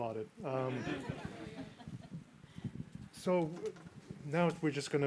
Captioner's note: group laughing